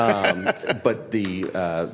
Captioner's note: laughter